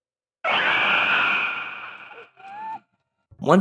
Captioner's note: roar